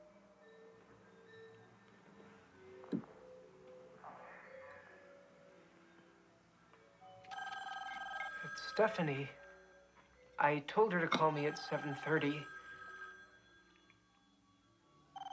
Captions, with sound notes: [TELEPHONES RINGING] IT'S STEPHANIE. I TOLD HER TO CALL ME AT 7:30.